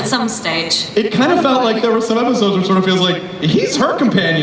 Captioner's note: voiceover